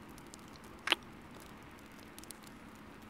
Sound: kiss

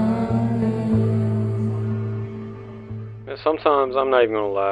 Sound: none

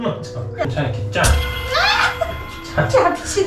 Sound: ahh!

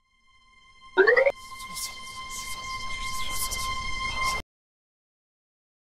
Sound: mysteirous whispering

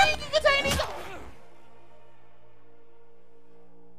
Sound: Abby grunting

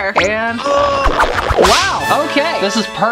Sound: whooshing

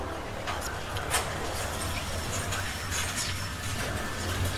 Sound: elevator door closing

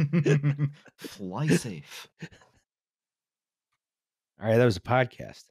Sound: laughter; Scott Manley voice; Scott Manley voice

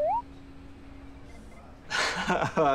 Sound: laughing

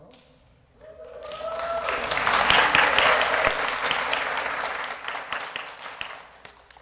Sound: applause

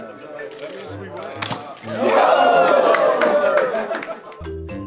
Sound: students laughing and murmuring; students cheering

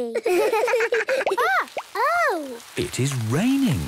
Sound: water dripping

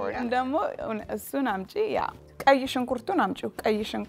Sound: speaking Amharic

